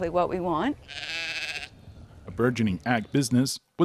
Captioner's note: sheep bleating